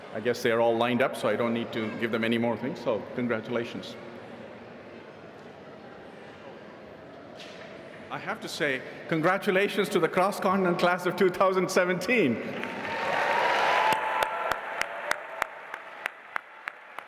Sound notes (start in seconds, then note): 12.5 audience applauding